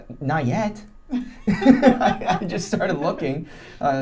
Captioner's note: laughing